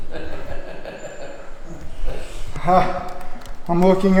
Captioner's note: laughs